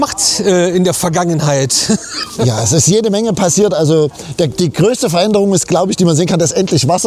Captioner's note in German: gelächter